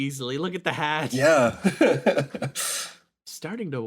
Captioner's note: laughs